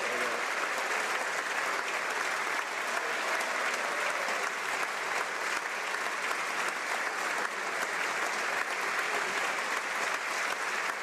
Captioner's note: some Applause